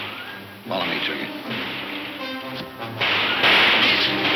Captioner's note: guns firing